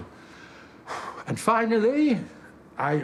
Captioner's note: he exhales